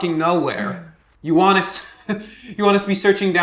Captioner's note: chuckles